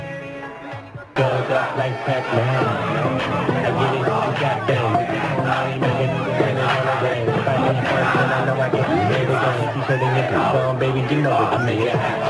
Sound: guys cheering

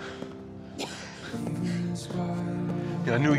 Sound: coughs

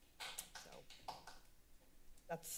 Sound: clapping

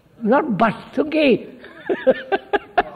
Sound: laughs

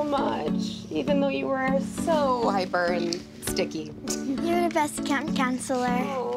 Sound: laughs

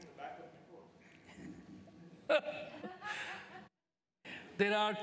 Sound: laughter

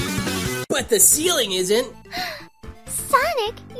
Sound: gasps

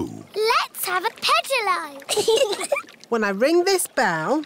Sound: giggling

